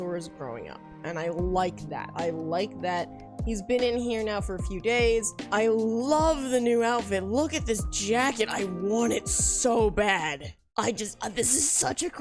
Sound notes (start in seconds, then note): none